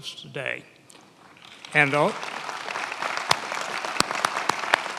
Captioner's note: many applauding